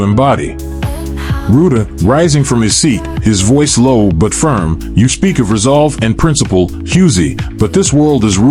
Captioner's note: rising from his seat, his voice low but firm